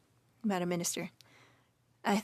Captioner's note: speaking French